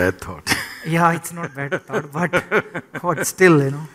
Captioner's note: laughs